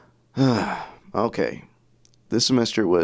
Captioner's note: sighs